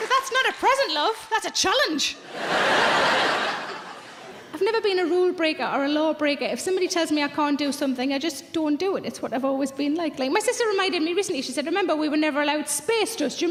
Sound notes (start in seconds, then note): 2.2 audience laughs